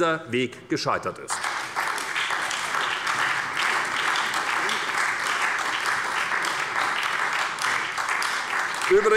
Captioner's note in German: Beifall bei der SPD